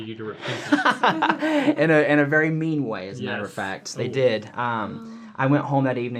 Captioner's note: laughter